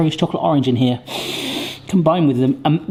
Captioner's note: sniffs